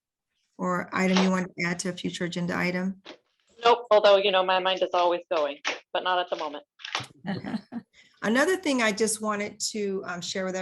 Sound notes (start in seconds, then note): 7.3 laughs